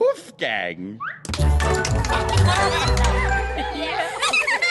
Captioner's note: tapping; giggling